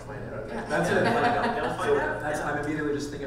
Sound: panel laughing

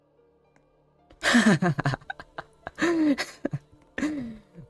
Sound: laughs

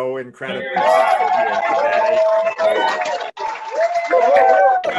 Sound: cheering

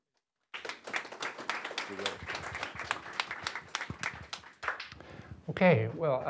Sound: applause

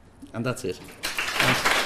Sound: clapping

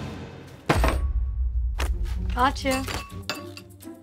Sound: table clatters

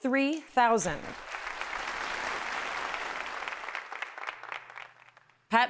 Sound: applause

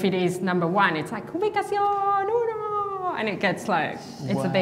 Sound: speaking Spanish

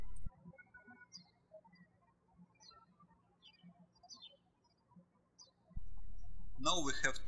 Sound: birds chirping

